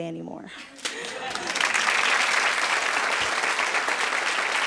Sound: audience applauding

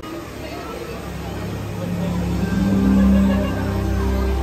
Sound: snow blowing; ethereal music

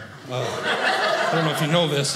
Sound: audience laughing

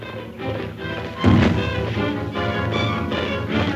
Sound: crash

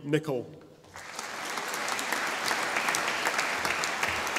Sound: audience applauding

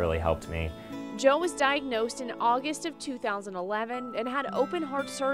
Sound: voiceover

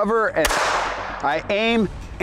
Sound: gunshot

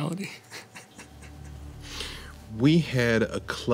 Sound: laughing

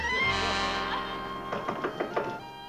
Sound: knock on door

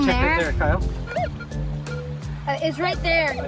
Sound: metal detector beeps

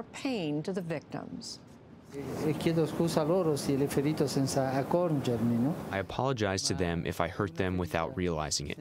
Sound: through translator

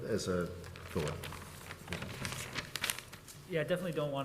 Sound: papers flipping

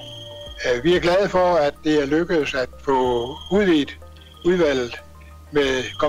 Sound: loud feedback; in Danish

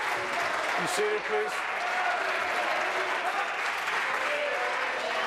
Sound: applause

